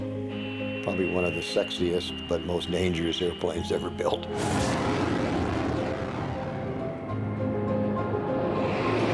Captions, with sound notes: which is probably one of the sexiest but most dangerous airplanes ever built. (engine roaring)